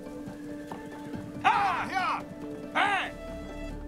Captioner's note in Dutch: paarden hinniken; spannende muziek